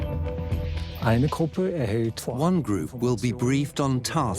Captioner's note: in German; dubbed in English